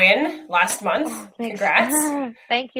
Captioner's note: laughs